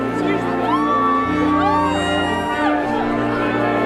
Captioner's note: whooping